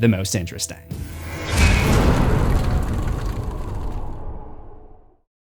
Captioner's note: impact